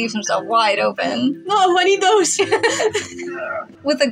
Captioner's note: laugh